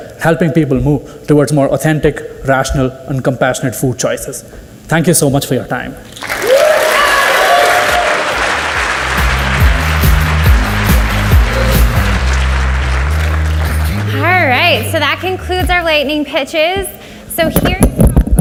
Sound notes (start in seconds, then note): 6.1 audience cheers and applauds; 9.1 upbeat rock music